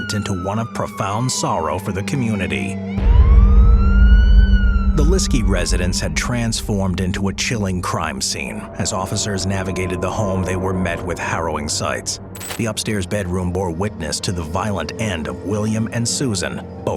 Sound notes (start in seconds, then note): 3.4 ominous music; 3.4 siren blaring